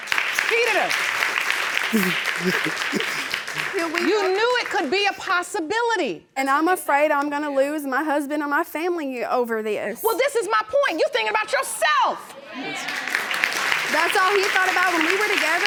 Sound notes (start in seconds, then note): 1.9 sobbing; 12.4 audience agreeing and applauding